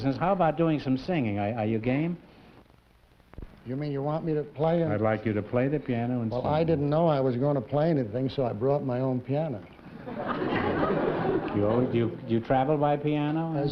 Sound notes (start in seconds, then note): 9.8 laughter